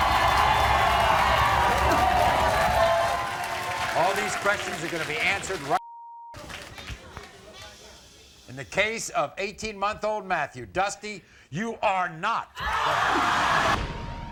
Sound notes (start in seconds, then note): 0.0 crowd cheering; 7.6 shushing